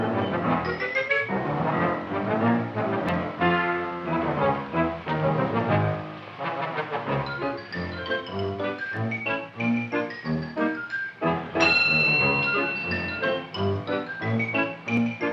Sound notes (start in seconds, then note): 11.6 bell ringing